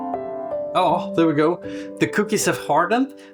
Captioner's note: in Swedish: Yes